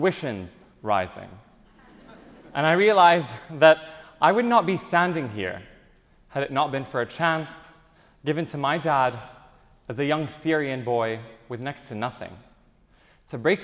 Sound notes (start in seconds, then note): 1.6 audience chuckles